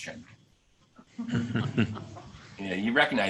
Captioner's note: laughing